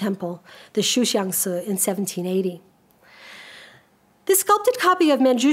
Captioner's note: speaks a foreign language